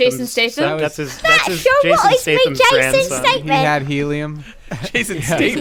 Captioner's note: cockney voice